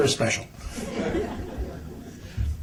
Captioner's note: laughter